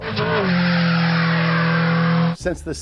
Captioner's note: engine running